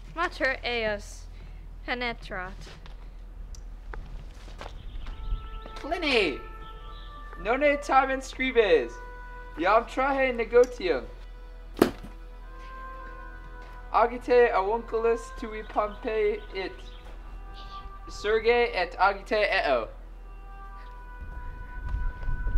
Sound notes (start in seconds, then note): 11.8 slap